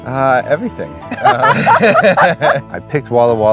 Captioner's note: laughing